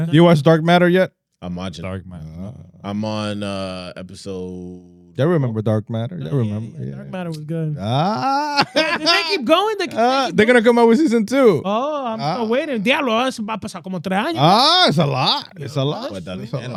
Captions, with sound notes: You watch Dark Matter yet? I'm watching. I'm on episode. They remember Dark Matter? Yeah, yeah, Dark Matter was good. Ah. (Laughing) They keep going, they keep going. They're gonna come over season two. Oh, I'm still waiting. (Speaking In Foreign Language) Ah, it's a lot. It's a lot.